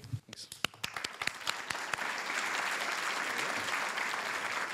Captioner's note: applause